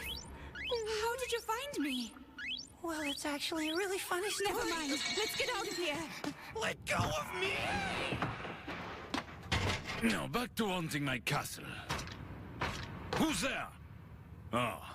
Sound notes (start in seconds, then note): 6.0 both gasping